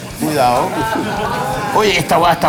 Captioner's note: laughs